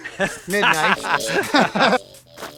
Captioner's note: laughter